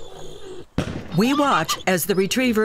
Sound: gunshot

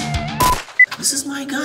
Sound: gunshot

